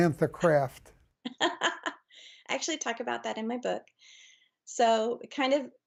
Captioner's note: chuckles